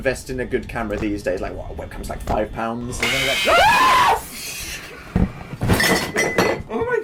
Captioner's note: screams; loud jumpscare; clattering